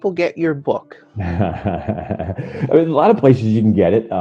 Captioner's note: laughs